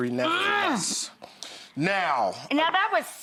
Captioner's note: Rachael groans drowning out David